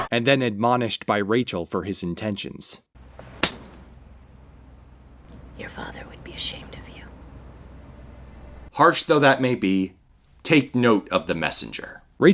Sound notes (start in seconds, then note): 3.2 slap